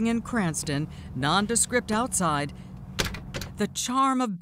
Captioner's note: door latch closing